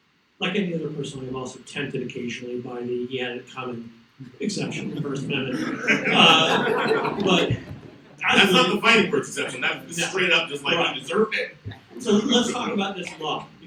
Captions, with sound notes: - Like any other person, I am also tempted, occasionally, by the 'he had it coming' exception to the first amendment. (audience laughs) - That's not the fighting words exception, that's straight up just he deserved it. - So let's talk about this law,